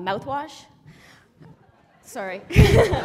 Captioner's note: laughter